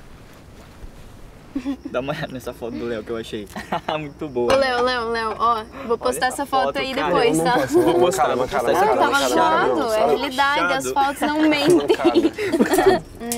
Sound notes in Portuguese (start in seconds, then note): 3.4 risos; 11.0 Jennifer rindo